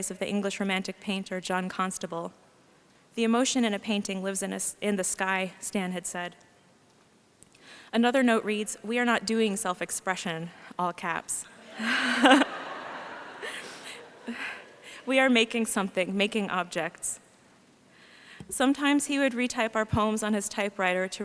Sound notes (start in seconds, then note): 11.7 laughs